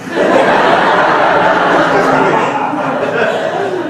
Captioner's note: laughing